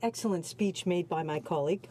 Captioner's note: speaking French